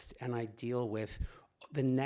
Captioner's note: none